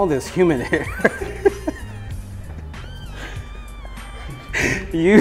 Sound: laughs

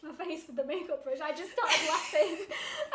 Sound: laughs

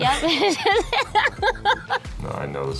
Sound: both laugh

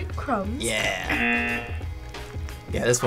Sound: buzzer

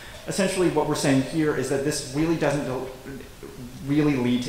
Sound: none

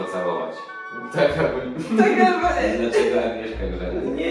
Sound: laugh

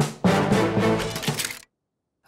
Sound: guns click

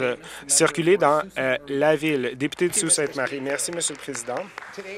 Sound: some Applause

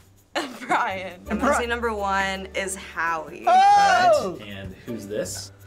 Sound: laughs

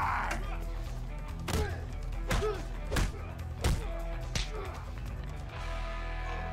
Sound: grunting

